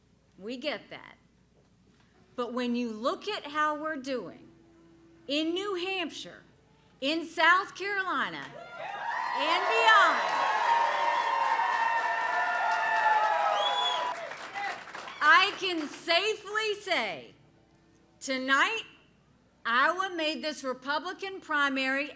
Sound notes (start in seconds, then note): 12.4 applause